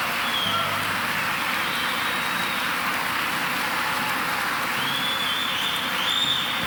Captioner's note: audience member whistling